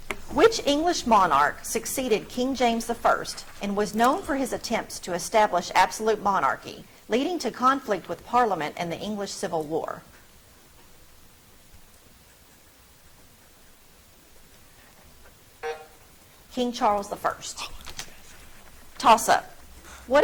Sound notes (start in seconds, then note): 15.6 buzzer drones